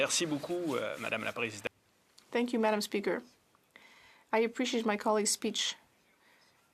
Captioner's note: speaking French